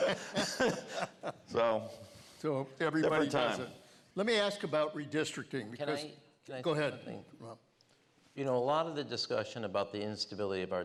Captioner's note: laughter